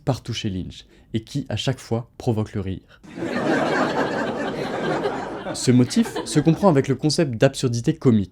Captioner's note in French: rires